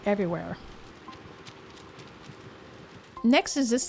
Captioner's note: plastic ribbon flapping